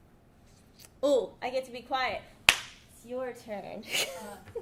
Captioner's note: claps